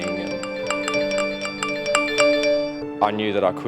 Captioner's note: cellphone dinging